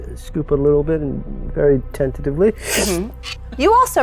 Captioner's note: sips